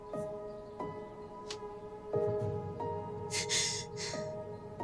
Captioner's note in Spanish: Sollozos